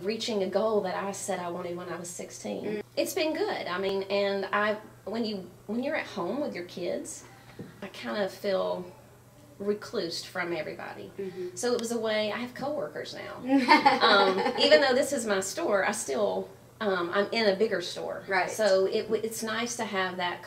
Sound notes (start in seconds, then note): 13.4 laughing